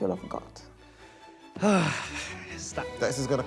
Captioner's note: sighs